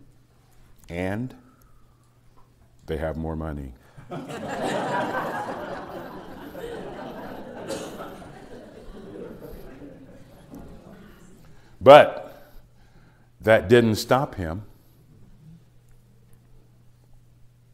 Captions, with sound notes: and, they have more money. (Laughter) But that didn't stop him,